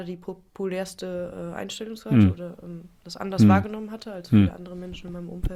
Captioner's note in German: räuspern